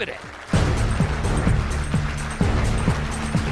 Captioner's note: applauding